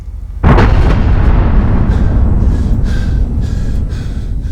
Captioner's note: explosion